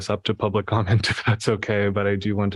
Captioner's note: laughter